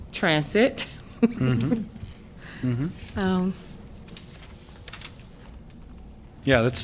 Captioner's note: laughter